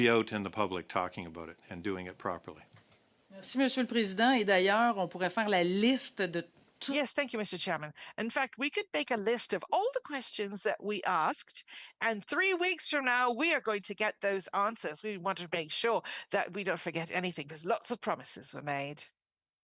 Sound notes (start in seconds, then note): 6.5 speaking French